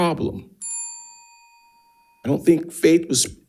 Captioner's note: bell dings